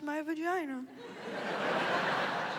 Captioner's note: laughter